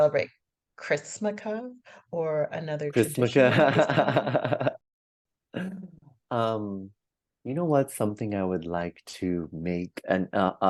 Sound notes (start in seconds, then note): 3.3 laughs